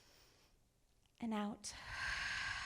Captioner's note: inhales; exhales